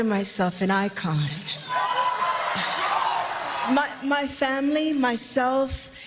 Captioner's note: applause